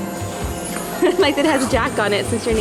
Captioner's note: laughs